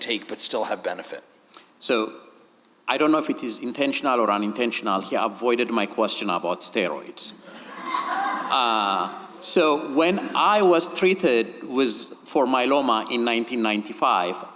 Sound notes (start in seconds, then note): 7.4 audience laughing